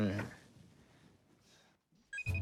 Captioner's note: phone ringing